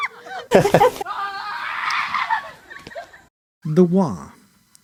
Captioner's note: boy screaming "Ahhh Ehhh heh ha... huh"